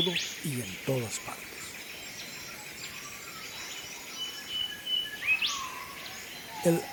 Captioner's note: birds chirps